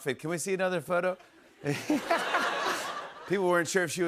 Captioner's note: laughter